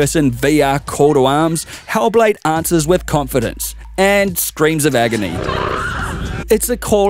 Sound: scream

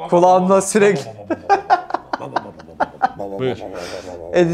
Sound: laughter

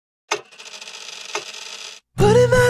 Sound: sound of film reel

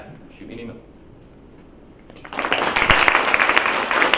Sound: applause

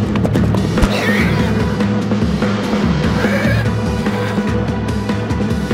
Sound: Geno cries out

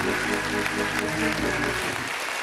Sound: applause

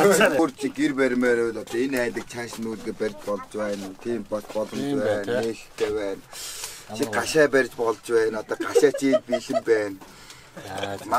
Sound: everybody is laughing

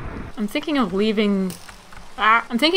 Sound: thunder crash; arrow sound

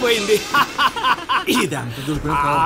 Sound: laughs

